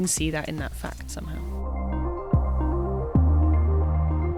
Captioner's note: voiceover